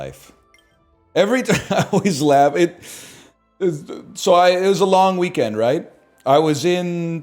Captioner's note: laughs